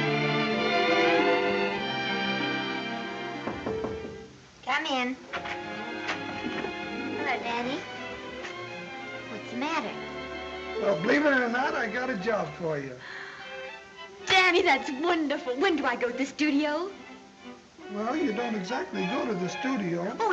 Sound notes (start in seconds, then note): 3.4 knocking on door; 13.0 gasps